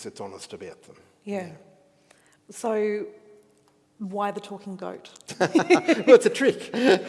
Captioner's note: chuckles